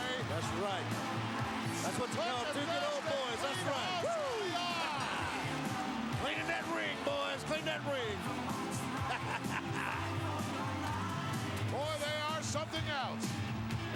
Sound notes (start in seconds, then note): 8.8 laugh